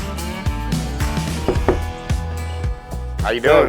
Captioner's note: knock on door